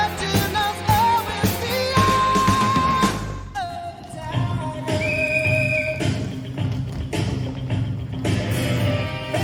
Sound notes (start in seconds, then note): 4.8 whistle blows